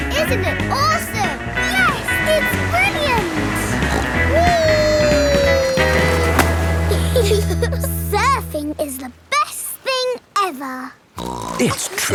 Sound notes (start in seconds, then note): 4.8 snorts; 6.8 giggle; 11.2 snorts